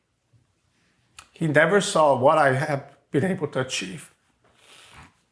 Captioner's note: sniffs